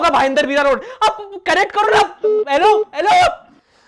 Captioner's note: call end